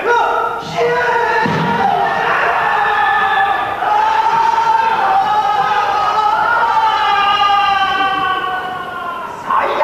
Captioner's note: Kayama and Manjiro scream and sail away